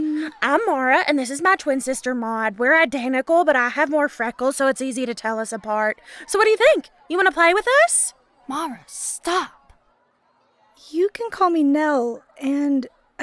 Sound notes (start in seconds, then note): 8.8 hushed; 11.1 hesitant